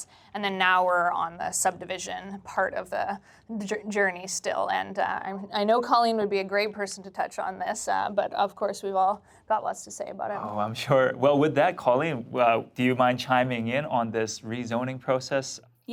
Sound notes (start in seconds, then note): none